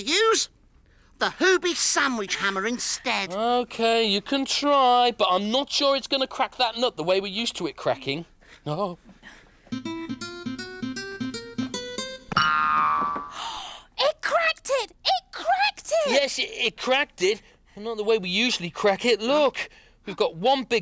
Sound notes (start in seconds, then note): 9.7 banjo Music; 12.3 boing